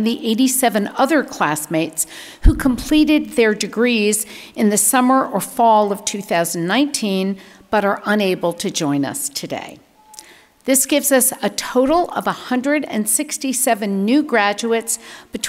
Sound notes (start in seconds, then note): none